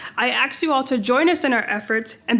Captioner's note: none